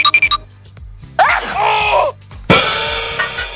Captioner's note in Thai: ฮั๊ดเช้ย!!!....โอ๊!!!!!